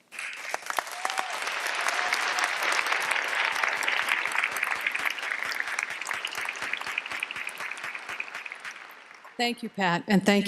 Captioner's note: applause